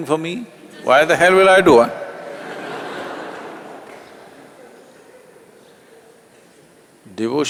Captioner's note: laughter